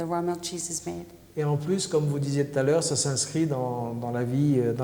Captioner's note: speaking french